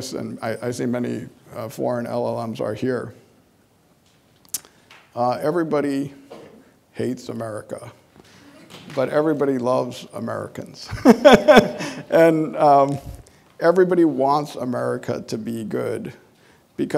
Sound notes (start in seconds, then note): 11.0 laughing